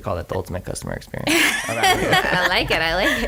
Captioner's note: laughter